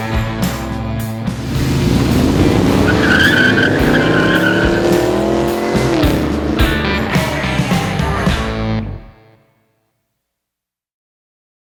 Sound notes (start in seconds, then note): 1.2 tires screeching; 1.2 engine revving; 7.2 rock music